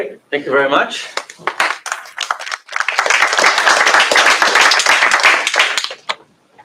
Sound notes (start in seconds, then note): 1.1 applause